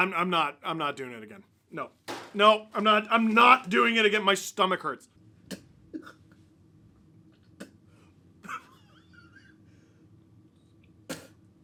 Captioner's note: spitting noises